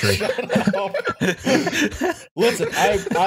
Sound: laughter

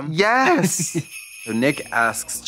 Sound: sleigh bells jingling

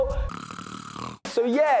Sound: snoring

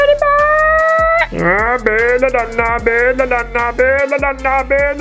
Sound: funny noises

